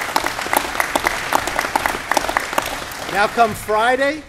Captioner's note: applause